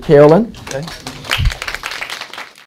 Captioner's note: applause